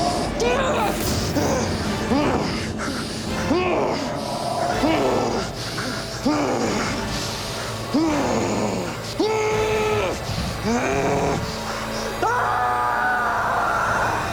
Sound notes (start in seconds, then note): 12.0 screaming